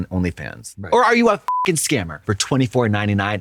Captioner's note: beep